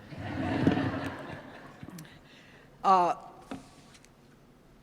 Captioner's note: audience laughs